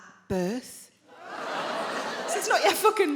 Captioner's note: crowd members groan